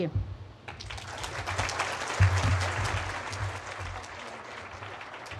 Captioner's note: audience applauding